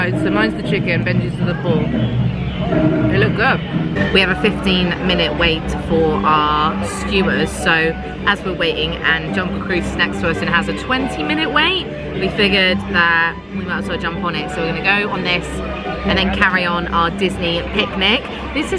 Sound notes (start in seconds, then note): 3.9 jungle music; 3.9 people chattering